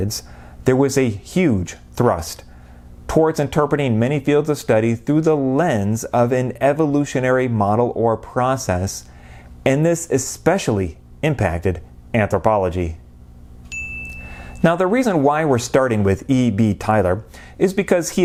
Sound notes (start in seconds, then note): 13.7 chime